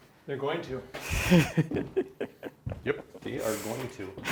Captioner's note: laughing